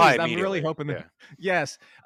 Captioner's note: laughs